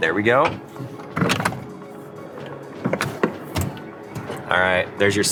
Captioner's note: seat lock clicks